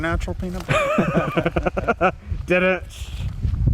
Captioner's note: laughing